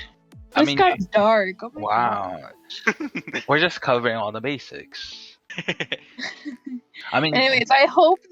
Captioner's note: laughs